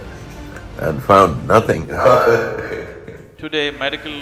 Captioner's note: laughing